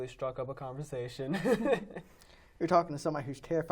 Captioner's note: laughing